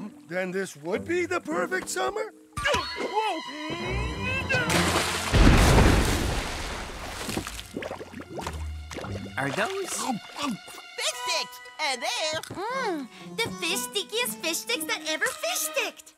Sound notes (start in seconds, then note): 4.1 yelps; 5.3 muffled explosion